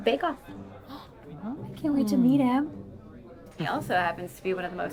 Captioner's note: gasps